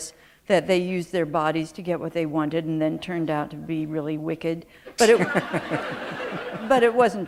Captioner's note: laughter